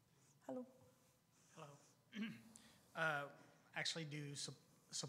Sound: clears throat

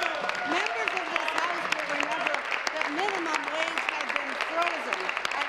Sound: applause

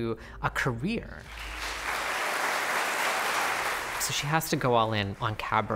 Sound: applause

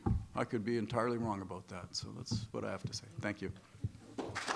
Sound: clapping

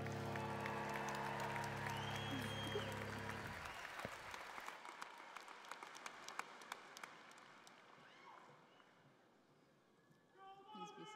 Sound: cheering and Applause

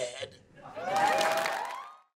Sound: cheering

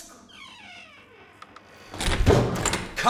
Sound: door opening

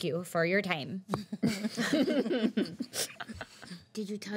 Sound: girls laughing

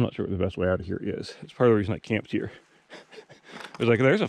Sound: laughs

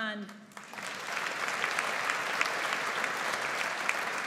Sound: audience applauds

